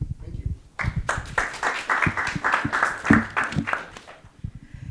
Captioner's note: audience clapping